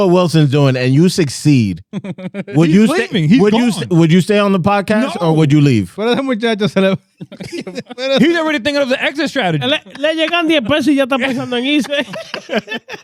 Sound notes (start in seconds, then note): 7.1 speaking In Foreign Language; 9.9 laughing; 9.9 speaking In Foreign Language